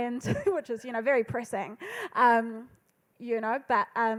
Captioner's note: laughs